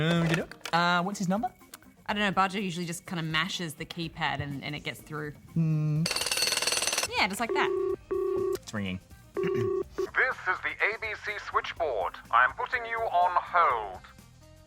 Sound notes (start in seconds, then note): 5.7 jackhammer rattles; 9.4 dial tone rings